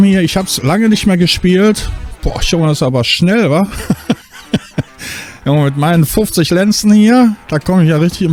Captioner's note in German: gelächter